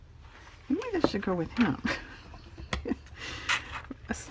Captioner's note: laughs